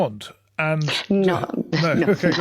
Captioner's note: laughs